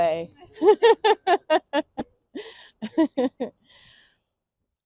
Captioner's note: and the audience laughs